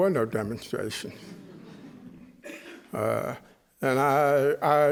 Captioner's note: chuckling